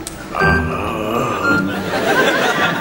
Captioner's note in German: Stöhnen